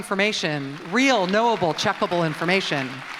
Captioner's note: audience applauds